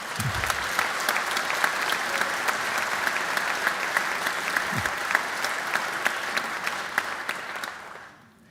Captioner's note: applause